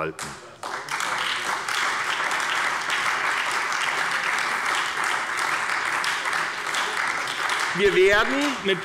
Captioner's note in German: Beifall bei der SPD und bei Abgeordneten der FDP